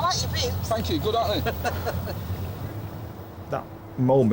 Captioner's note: crew laughs